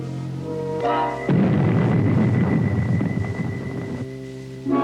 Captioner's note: rockets blasting